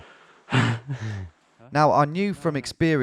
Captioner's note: both laugh